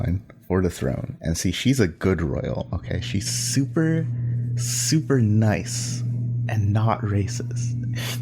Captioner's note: mocking